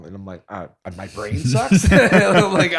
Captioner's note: laughter